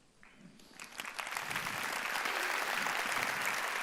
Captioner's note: audience applause